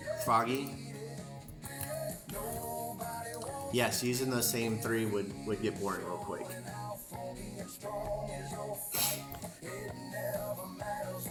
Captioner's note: singing and music; singing; snorts